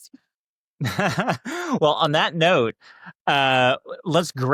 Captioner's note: laughs